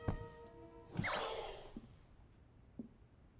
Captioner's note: Cherry beeps